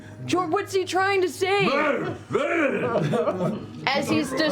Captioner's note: bear sounds